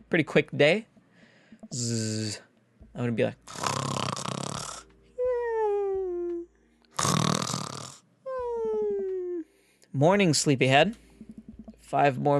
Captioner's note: snores